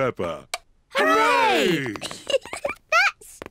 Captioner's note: giggles